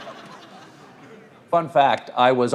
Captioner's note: audience laughs